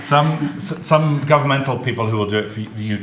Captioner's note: audience laughs